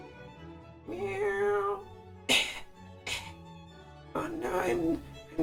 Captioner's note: cough, cough